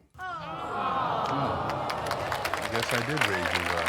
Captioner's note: audience awwing and claps